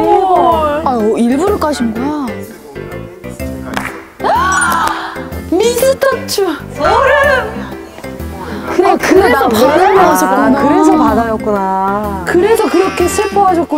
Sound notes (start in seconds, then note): 4.2 enthusiastic reactions toward the unexpected twist